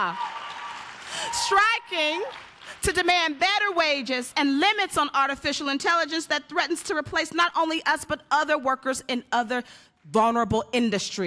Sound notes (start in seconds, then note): 2.5 applause